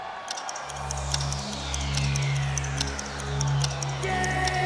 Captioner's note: dramatic music; audience cheering